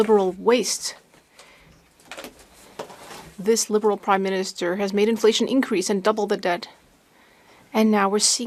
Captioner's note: speaking French